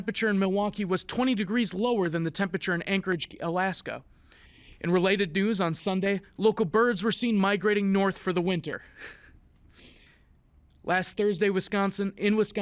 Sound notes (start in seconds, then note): 8.9 giggles